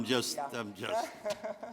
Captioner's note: laughter